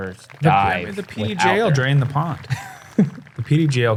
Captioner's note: chuckles